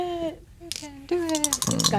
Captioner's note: dice rattling; dice rolling